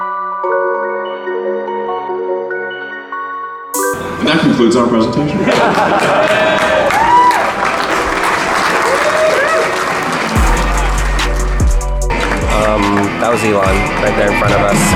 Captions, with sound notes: - And that concludes our presentation. (clapping) - Um that was Elon right there in front of us.